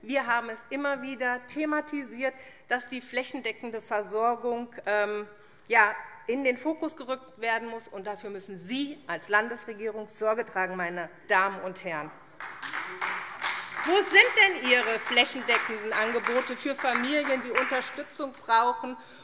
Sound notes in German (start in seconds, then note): 12.3 Beifall SPD - Zurufe BÜNDNIS 90/DIE GRÜNEN